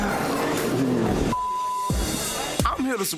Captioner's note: beep